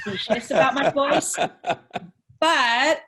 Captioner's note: laughing